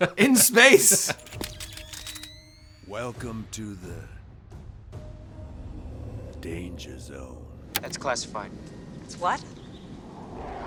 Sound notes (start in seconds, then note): 0.0 laughing; 1.2 electronic whirring